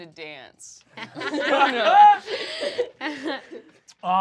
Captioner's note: laughter